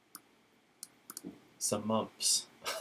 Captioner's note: laughs